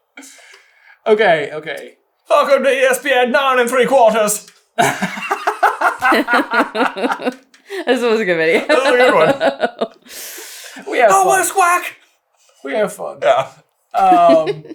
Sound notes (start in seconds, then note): 4.8 laughter